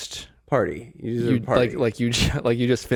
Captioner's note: murmurs